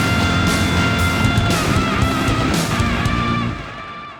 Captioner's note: explosion; gunfire